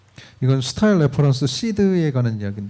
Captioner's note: speaking korean